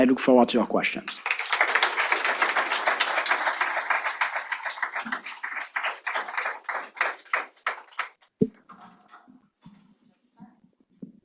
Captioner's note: audience applause